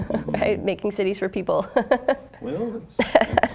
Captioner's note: laughing